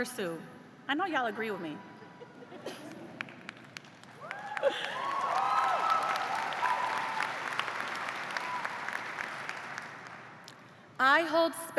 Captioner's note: laughter; cheers and applause